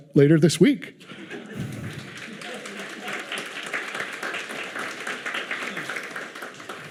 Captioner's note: audience laughing; audience clapping